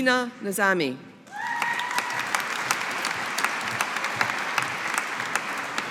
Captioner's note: audience applauding